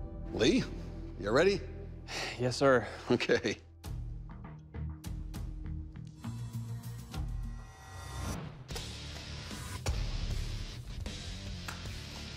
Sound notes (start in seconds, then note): 2.0 sighs